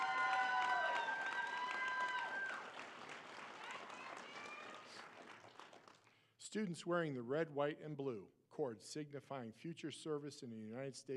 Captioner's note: applause